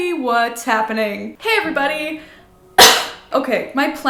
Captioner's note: coughs